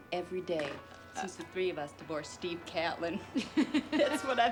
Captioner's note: chuckles